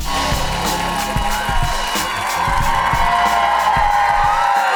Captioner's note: cheering and applause